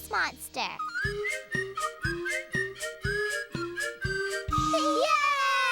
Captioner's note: whistling